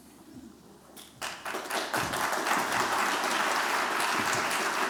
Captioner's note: applause